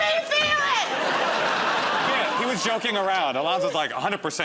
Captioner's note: laughter